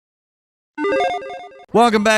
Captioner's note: electronic beeping